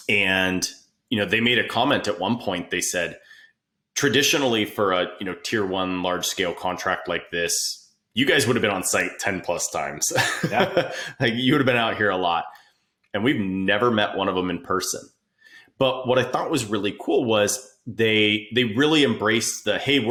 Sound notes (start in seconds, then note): 10.0 laughing